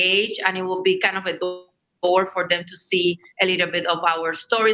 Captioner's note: audio skips